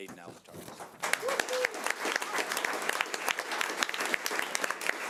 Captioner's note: audience applause